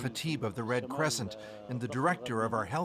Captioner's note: speaking alternate language